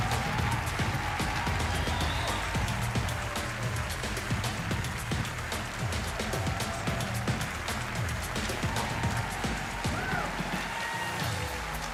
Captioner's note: cheers and applause